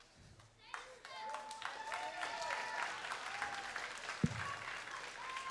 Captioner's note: crowd applauds